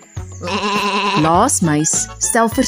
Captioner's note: sheep bleats